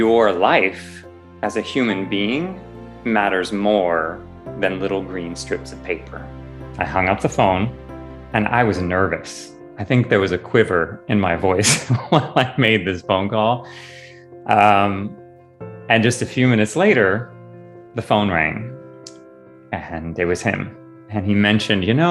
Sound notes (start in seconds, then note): 11.6 sigh and laughter